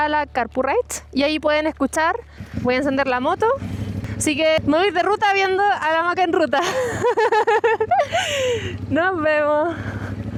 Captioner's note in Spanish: risas